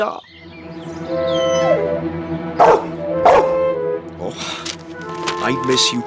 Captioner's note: whines & Barks